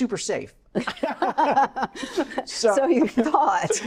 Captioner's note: laughing